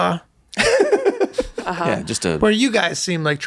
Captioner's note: Rob laughs